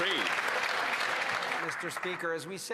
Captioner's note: some Applause